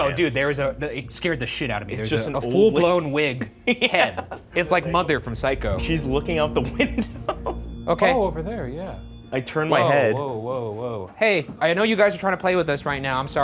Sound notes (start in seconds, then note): 9.2 bell dings